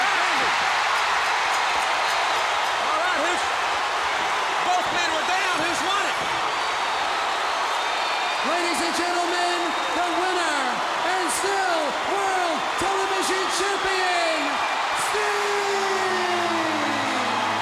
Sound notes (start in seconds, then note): 0.6 applause; 6.6 applause